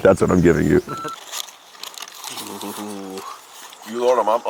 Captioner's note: beep